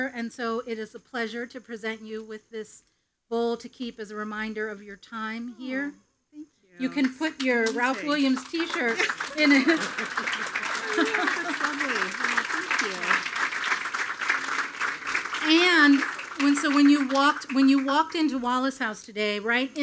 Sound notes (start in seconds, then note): 8.5 everyone laughing; 9.8 attendees applauding; 11.3 speaks faintly